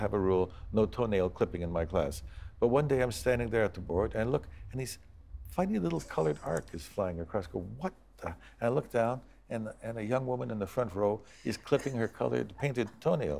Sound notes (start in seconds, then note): 5.8 laughs